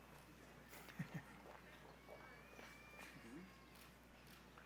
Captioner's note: laughing